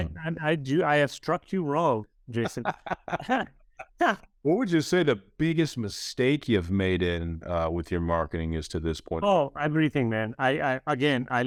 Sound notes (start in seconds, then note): 2.4 chuckles; 2.4 laughs